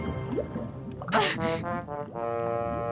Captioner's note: muffled cries